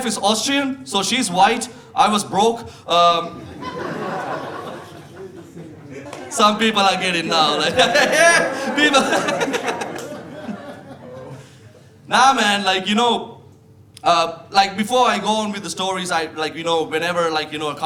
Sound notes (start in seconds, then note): 3.9 audience laughing; 7.8 laughing